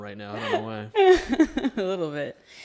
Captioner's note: chuckles